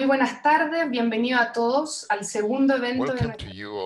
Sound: speaking in a foreign language

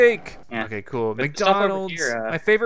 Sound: voiceover

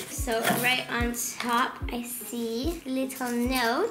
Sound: none

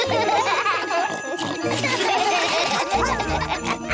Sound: snorts and giggles; all laugh

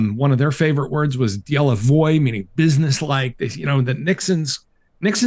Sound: non-english

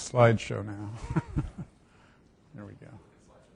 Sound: instructor laughing

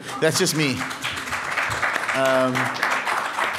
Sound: applause

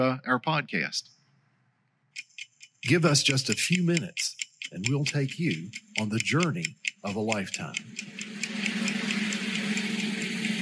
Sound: ticking clock in background

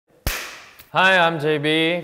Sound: hands clap

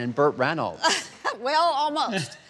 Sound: laughing

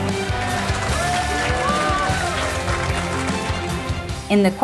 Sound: team applauding

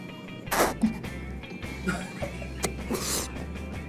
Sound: gags

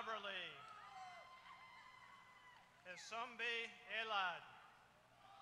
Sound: applause; applause

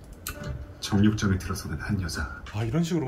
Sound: recorded narration

